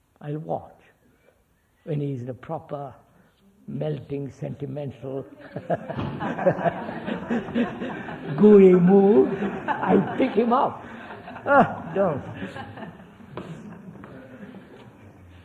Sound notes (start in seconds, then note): 10.1 laughs; 10.2 laughter